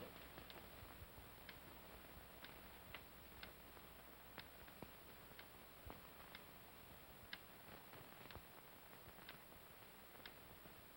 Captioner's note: clock ticks softly